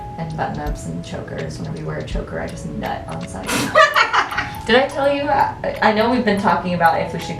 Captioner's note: bursts out laughing